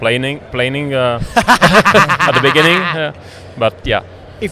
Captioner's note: laughs